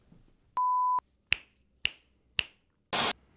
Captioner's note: snaps fingers three times